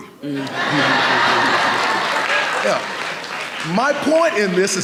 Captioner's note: audience laughing